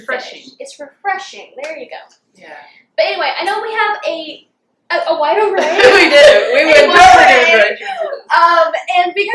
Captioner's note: laughter